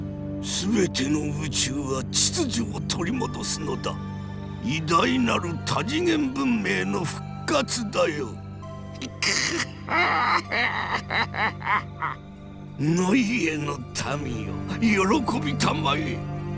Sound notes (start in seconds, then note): 9.2 Krankor-ish laugh